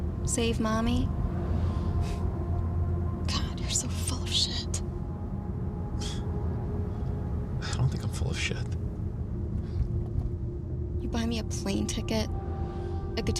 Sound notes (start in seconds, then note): 2.2 sighs; 6.0 Zach sighs